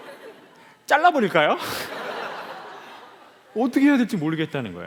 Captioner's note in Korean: 웃음